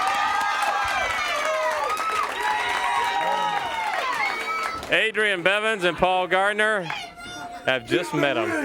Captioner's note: crowd cheering